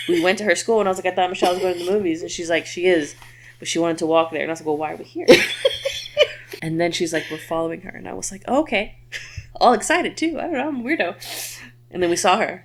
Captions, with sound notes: We went to her school and I was like, I thought I'm a child going to the movies. And she's like, she is. but she wanted to walk there and I was like, "Well, why are we here?" (laughs) And then she's like, we're following her and I was like, "Oh, okay. All excited too. I don't know. I'm weirdo." And then we saw her.